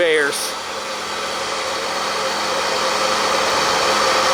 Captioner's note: machines whirring